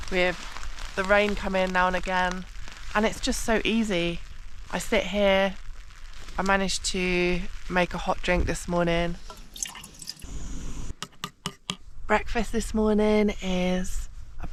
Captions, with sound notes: with the rain coming now and again and it's just so easy I sit here I managed to make a hot drink this morning *water splosh* *stove roaring* *tap tap tap tap* breakfast this morning is